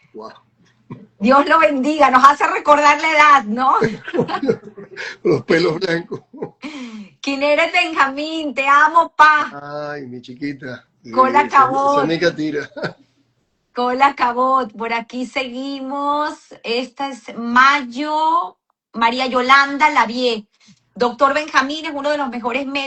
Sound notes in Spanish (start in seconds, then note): 3.8 risas